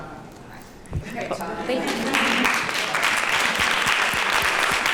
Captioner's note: applause